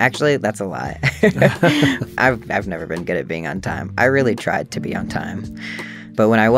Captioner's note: laughter